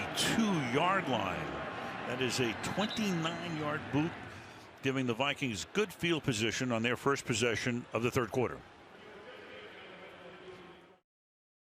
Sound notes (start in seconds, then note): 3.3 pa announcement